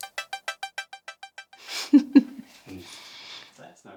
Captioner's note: laughs